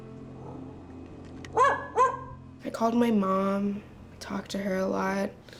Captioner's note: dog barks and growls